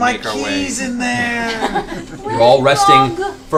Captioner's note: laughter